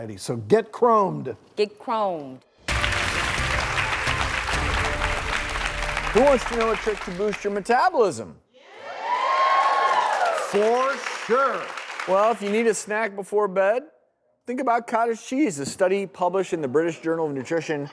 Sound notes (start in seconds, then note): 2.6 applause; 8.7 cheers